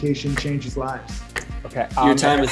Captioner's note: clock ticking